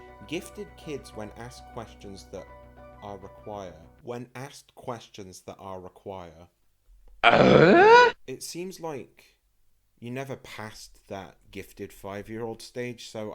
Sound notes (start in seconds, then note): 3.7 confused